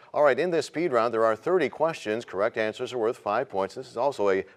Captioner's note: none